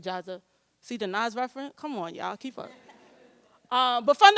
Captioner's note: audience chuckles